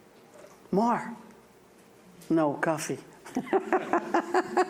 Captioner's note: laughs